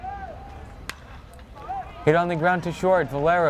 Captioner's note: bat cracks